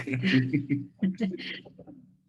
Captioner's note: laughter